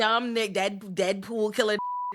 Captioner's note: beep